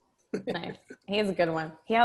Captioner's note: laughs